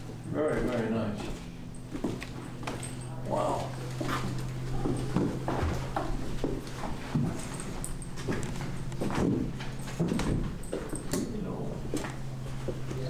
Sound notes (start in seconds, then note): 3.6 footsteps